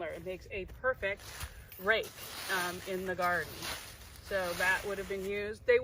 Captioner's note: moving leaves